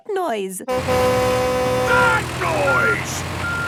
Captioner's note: tractor noise; screaming